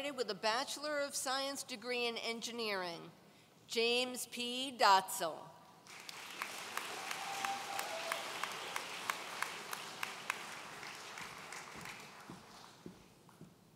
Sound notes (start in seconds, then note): 6.0 audience cheering